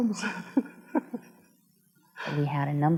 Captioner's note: laughs